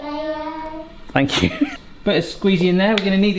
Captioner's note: chuckles; babies chattering